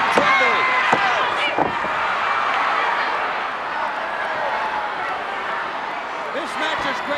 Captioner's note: applause